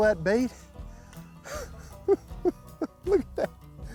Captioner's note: laughing